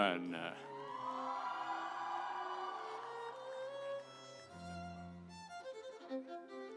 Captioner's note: audience cheering; instrumental music